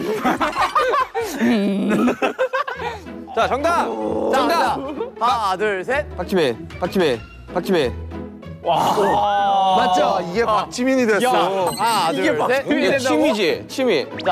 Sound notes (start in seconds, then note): 8.7 sigh from those who know the answer